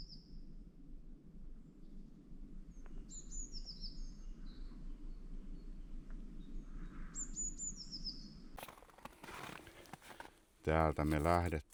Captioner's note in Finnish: lintujen laulua